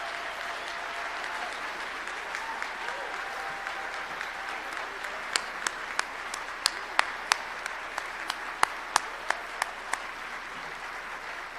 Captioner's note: applause